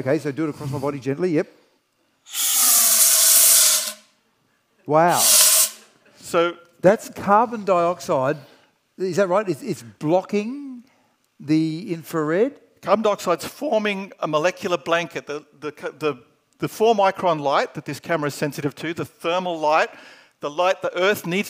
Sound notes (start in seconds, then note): 2.2 gas whistling